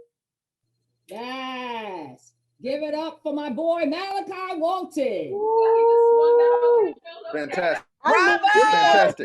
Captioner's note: multiple voices from off-screen